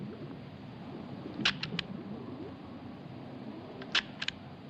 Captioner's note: camera clicking